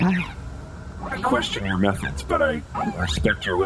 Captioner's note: hesitantly